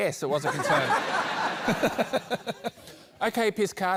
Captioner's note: laughter